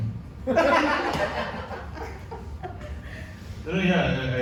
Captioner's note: audience laughs